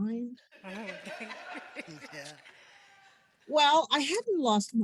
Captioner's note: laughter